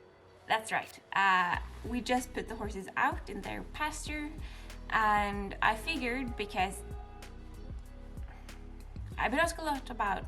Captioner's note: train horn